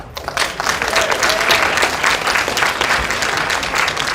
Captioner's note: applause